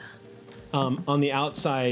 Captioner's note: gasps